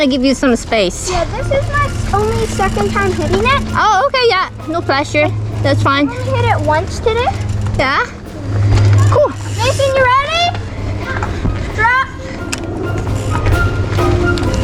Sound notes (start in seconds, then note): 11.4 responds in distance; 11.7 yells loudly